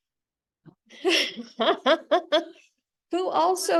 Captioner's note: laughs